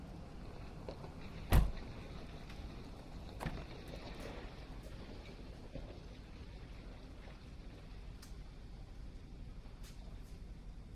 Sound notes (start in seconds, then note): 0.0 door clicks; 0.0 truck whirring; 1.4 door thuds; 3.3 door clicks